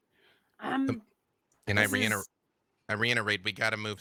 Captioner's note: murmurs